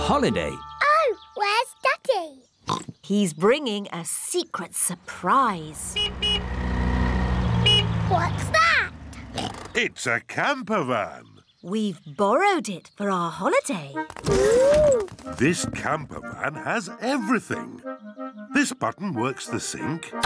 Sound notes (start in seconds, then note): 2.6 oinks; 5.7 horn honks; 9.3 oinks